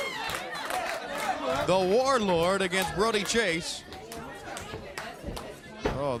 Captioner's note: crowd chatter